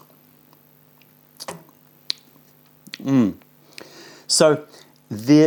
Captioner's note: sips tea